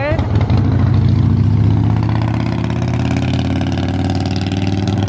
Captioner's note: departing motorcycle rumbles